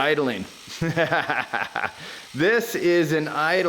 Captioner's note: laughs